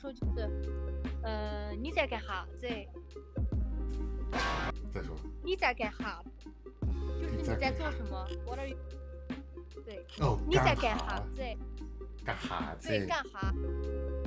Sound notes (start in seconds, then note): 1.9 speaking Dialect; 5.1 speaking Dialect; 10.1 speaking Dialect